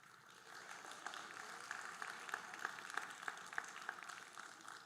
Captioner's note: audience applauding